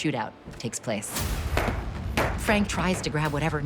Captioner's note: guns firing